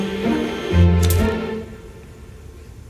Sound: soft boom of stove igniting

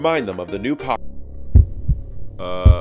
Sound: sound: Heartbeat

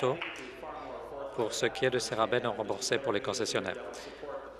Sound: applause

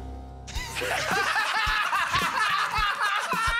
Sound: laughing

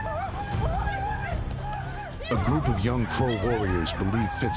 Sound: war sounds

